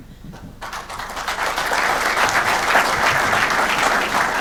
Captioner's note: audience clapping